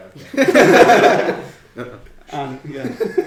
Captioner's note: laughing